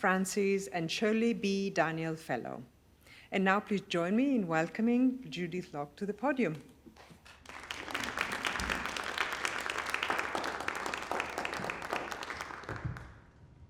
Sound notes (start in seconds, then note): 7.2 applause